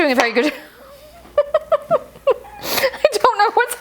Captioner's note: chuckles